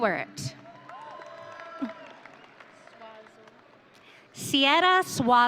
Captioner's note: audience cheering